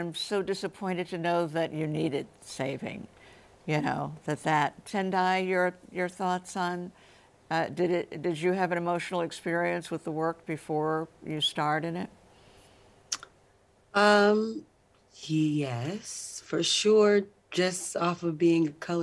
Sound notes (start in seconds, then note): none